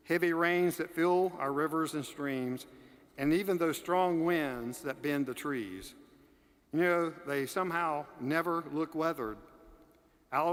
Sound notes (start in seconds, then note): none